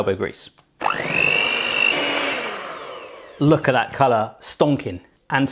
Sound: mixer whirs

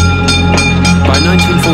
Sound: bell clanging; suspenseful music

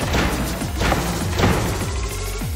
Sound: door slamming

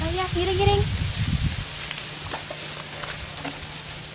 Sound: none

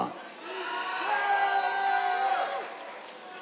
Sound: cheers, applause

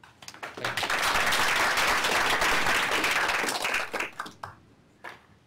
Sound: applause

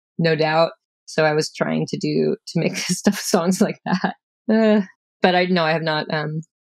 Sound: laughter

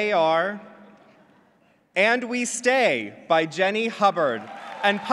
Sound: clapping

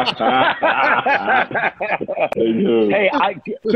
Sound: laughter

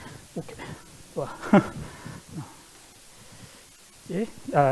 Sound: laughs

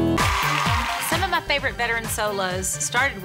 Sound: women cheer

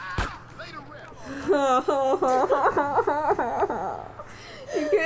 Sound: groaning laughter

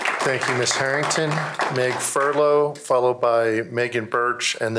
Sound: applause

